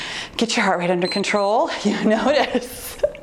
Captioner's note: timer beeps